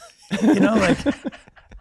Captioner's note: laughing